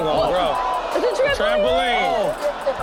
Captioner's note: audience gasps